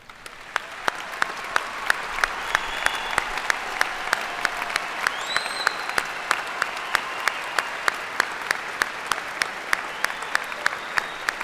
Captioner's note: applause